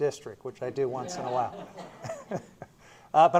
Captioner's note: laughter